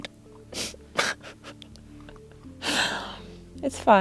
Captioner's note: cries and laughs